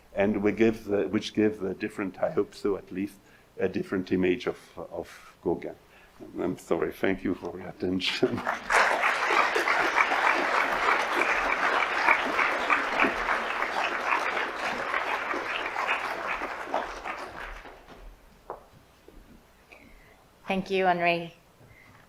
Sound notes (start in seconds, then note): 8.7 audience applauds